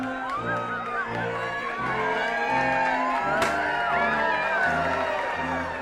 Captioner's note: attendees cheering